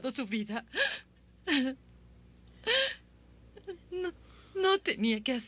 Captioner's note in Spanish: Trina soluçando